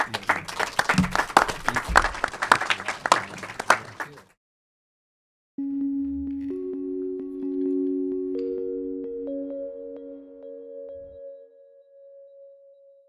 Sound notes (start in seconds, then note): 0.0 audience applauding; 5.6 gentle music